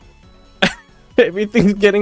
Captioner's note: laugh